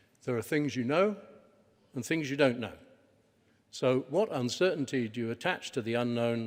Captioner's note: none